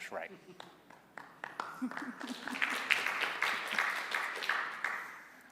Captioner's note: applause